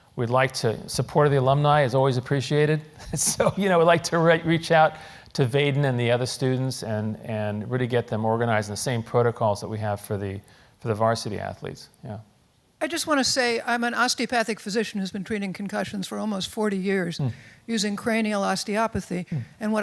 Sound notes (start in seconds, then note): 2.9 laugh